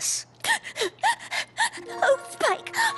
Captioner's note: sobbing